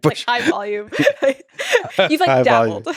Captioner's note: both laughing